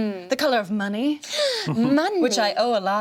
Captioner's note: gasps